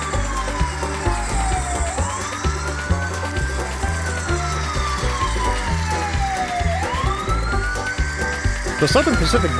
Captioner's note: approaching police siren